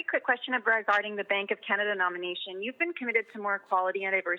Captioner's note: speaking French